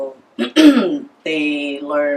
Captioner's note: ahem